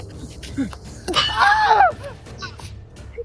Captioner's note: bandit 2: fearful cry